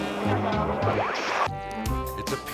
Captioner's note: melodic music; screen static; lively music